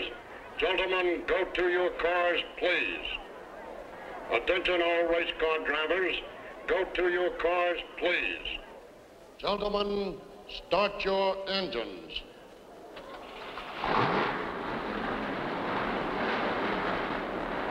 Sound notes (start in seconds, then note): 12.2 engines rumbling